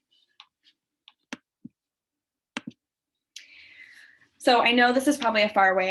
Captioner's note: keyboard clicking